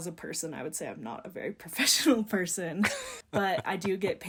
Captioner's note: laughing